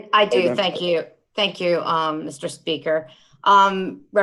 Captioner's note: laughter